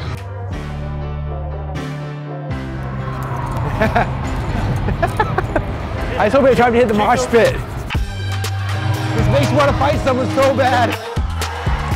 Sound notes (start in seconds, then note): 3.4 people laughing; 8.2 powerful electronic music